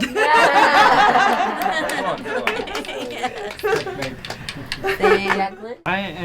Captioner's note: laughs and claps